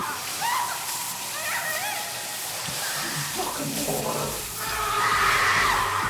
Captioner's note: water splashing; dryer humming; woman shouting; couple shouting